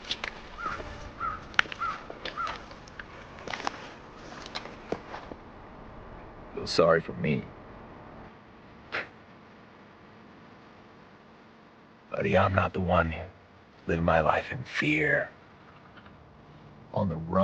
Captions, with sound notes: (tense music) - Feel sorry for me? (chuckles) Buddy, I'm not the one living my life in fear, on the run.